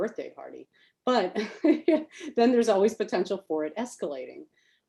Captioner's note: laughs